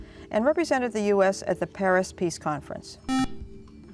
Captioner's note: buzzer